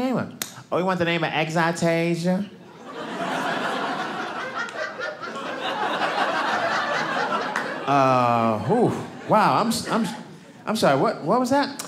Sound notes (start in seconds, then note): 2.7 audience laughing